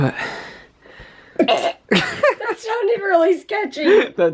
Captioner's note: both laugh